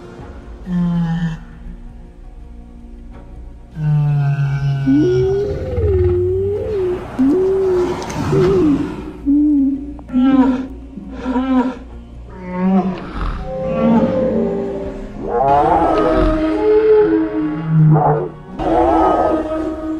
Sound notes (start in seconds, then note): 7.1 various Dinosaur Sounds